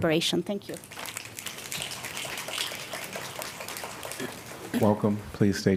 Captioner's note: applause